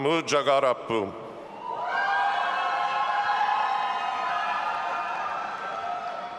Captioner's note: audience applauding and cheering